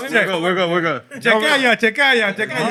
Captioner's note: non-english Speech